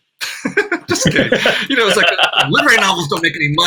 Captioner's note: laughs